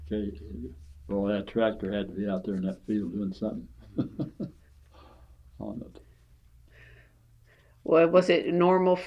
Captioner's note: laughs